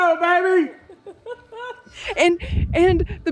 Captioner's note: laughing